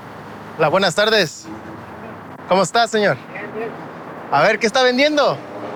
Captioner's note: speaking in Spanish